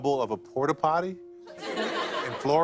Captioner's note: light laughter